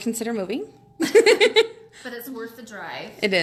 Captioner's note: laughing